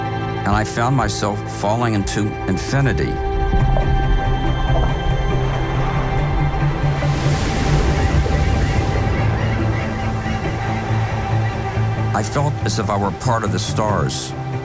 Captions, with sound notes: and I found myself falling into infinity. (uplifting music) (waves crash) (birds chirping) I felt as if I were part of the stars.